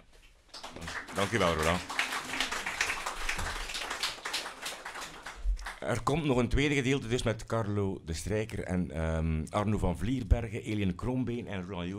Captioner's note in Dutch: applaus